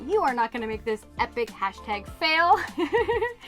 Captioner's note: laughs